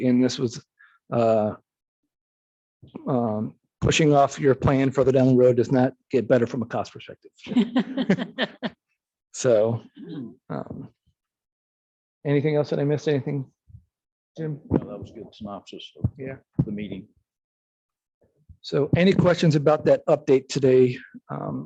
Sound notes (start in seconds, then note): 7.5 laughs